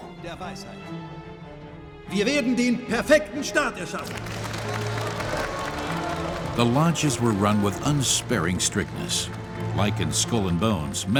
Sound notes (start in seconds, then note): 2.4 speaking in German; 4.5 clapping